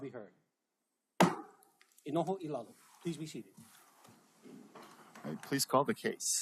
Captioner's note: gavel bangs once